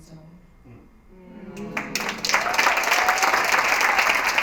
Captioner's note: applause, cheering